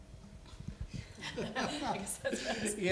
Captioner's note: laughter